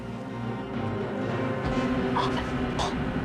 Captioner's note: tersedak